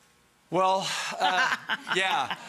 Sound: Rachael laughing

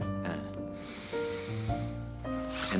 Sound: inhales deeply

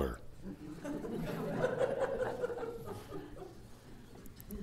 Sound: laughter

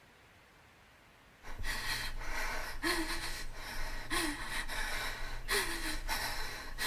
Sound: breathes heavily

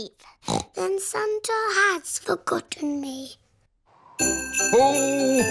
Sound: snorts

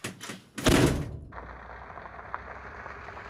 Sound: gravel crunches

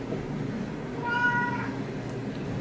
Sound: meowing

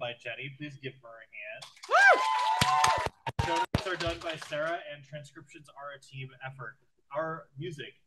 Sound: applause

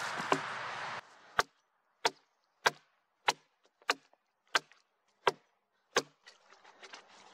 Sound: wood cracking, brushing work with a gloved hand, car passing; axe knocking on wood; wood cracking

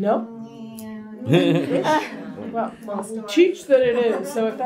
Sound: laughter

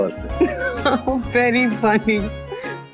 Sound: laughs

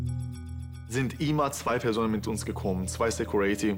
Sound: in German

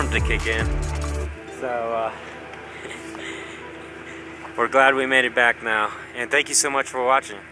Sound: laughs

